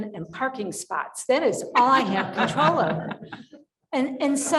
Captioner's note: panelists laughing